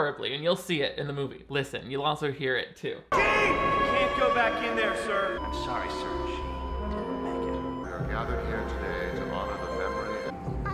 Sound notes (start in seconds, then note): 3.3 heart machine flat lining